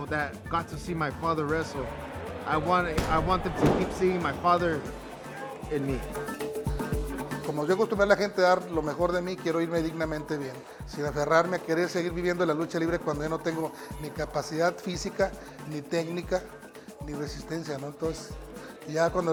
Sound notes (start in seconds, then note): 8.6 Rey Misterio speaking Spanish